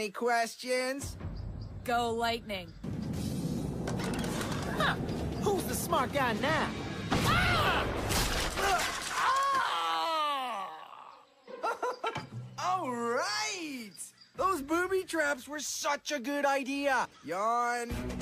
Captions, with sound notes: any questions? Go Lightning who's the smart guy now *sound of pain* *evil laughter* Alright those booby traps were such a good idea Yawn...